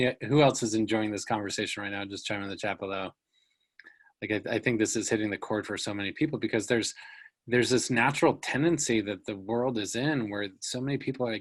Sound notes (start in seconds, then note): none